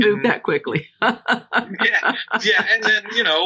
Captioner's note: both laughing